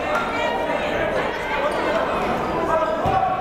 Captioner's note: yelling